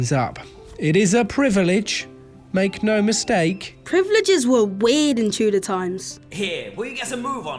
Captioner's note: shouting